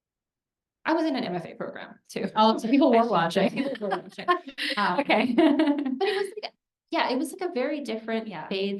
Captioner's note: laughter